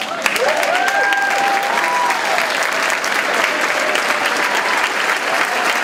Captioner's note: clapping drowns out speaker